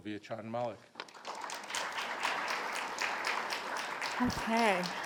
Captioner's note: attendees applaud